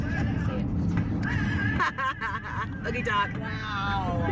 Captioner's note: laughs